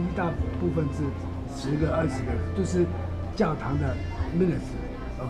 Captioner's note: mandarin